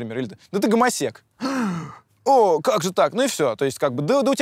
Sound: gasps

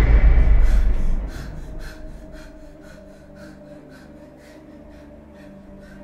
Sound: heavy breaths

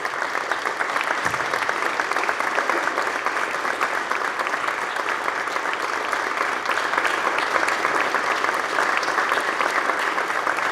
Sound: applause

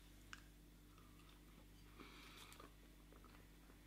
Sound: chewing

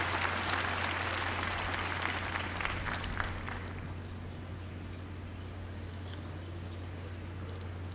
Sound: applause

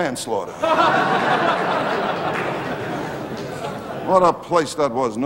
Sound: audience laughing

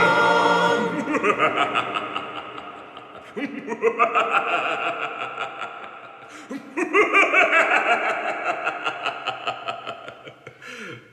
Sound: diabolical laughter

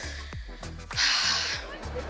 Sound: sighs

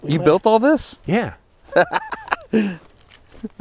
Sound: laughs

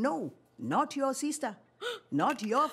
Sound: gasps

